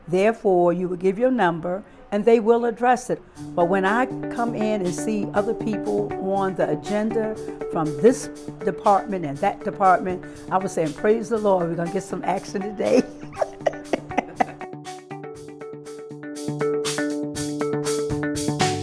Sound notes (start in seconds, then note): 12.8 laughs; 15.4 upbeat music